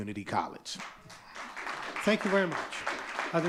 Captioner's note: audience clapping